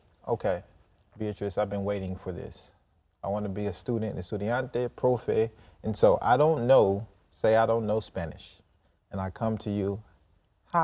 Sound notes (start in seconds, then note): 4.8 in Spanish